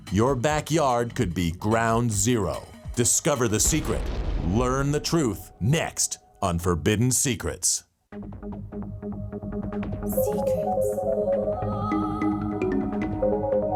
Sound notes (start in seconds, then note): 3.6 bomb exploding; 8.2 upbeat cryptic music